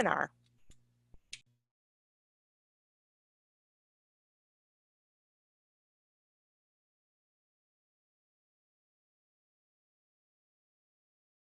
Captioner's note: pause